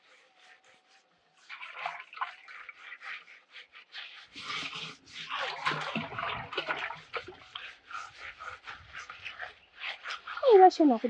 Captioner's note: scrubbing